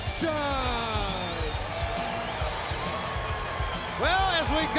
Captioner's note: crowd cheering